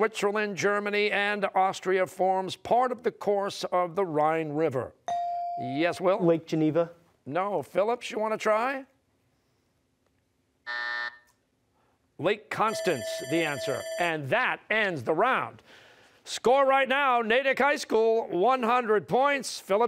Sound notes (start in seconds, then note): 10.6 buzzer; 12.6 bell rings